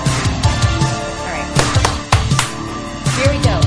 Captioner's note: claps hands